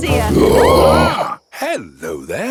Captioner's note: roaring, screaming